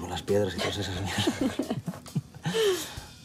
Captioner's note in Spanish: Risas